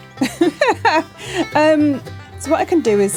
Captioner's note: laughing